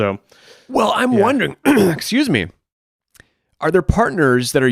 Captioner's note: clears throat